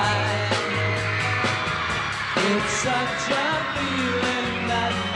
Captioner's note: crowd cheering